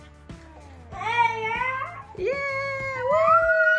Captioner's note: girl squeals in happiness